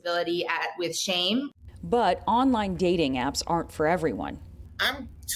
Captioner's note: voice-over